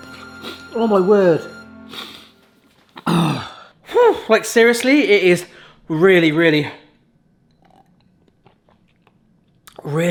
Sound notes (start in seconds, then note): 1.9 sniffling; 3.0 clears throat; 7.6 slurping